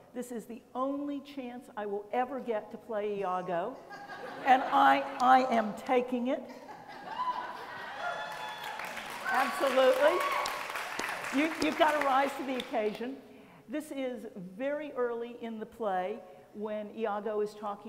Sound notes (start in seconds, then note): 3.8 laughter; 6.6 laughter, cheering